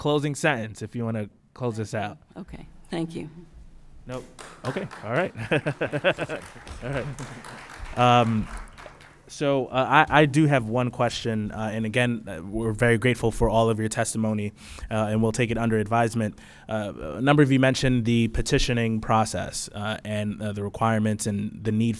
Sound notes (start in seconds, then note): 5.9 applause